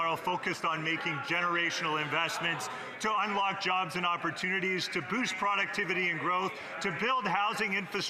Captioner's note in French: voix de l'interprète